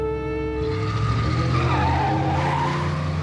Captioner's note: tires screeches